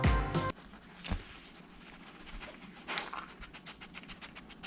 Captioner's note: dog sniffing